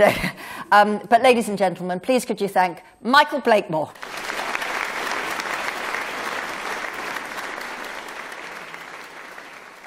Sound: applause

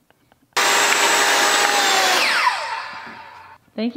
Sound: sawing

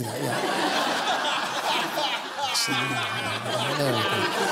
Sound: laughter

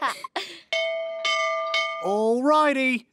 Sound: bell ringing

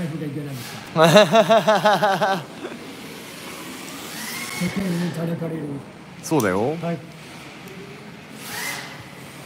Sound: laughs

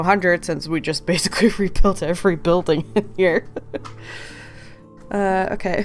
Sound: laughing

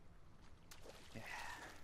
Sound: splash

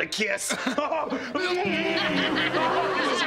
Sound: giggling; smooching

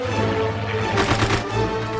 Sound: shooting

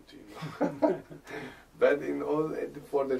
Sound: laughter

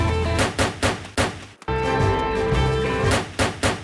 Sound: banging

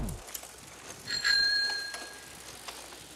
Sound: bell ringing

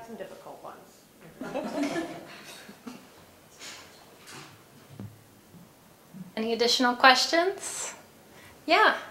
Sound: laugh

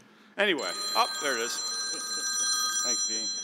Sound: phone rings

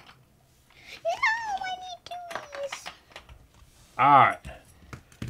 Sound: voiceover

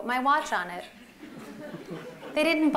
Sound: laughter

